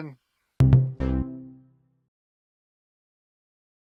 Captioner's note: short vibrant tone